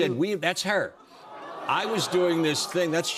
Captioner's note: audience awws